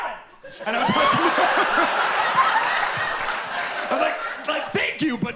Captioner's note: audience laughs